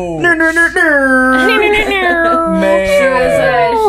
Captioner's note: airhorn sound effect